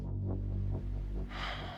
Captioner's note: sighs